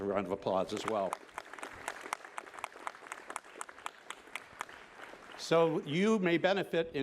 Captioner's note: applause